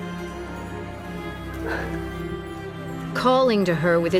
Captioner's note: annaline exhaling